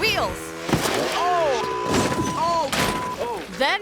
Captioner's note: beep